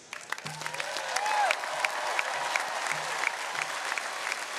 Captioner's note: audience cheering